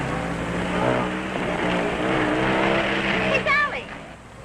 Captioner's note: engine rumbling